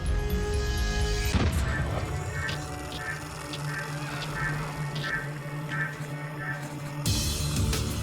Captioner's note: intense music; gunshot